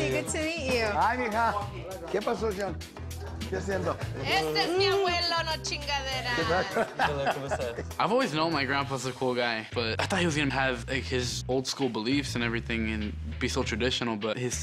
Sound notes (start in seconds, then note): 6.3 laughs